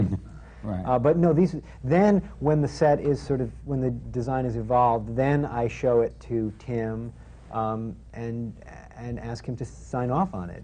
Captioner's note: laughs